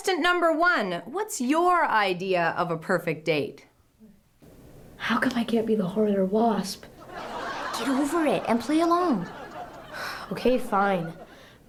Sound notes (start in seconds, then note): 7.0 laughter